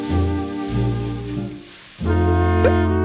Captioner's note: brrr